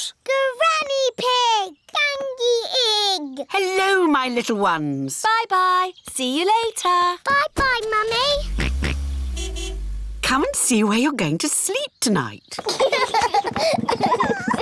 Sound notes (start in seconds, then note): 8.2 car horn honks; 8.6 george oinks; 12.6 children laugh